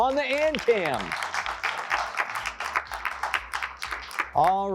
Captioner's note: applause